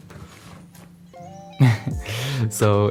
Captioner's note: chuckle